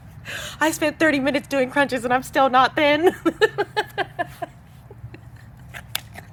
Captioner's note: laugh